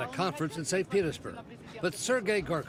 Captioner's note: speaking a foreign language